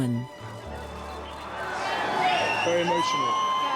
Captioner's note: crowd cheering